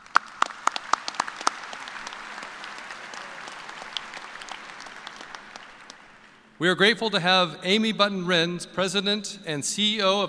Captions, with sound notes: APPRECIATION? [ APPLAUSE ] WE ARE GRATEFUL TO HAVE AMY BUTTON RENZ, PRESIDENT AND CEO